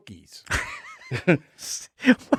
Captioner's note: laughing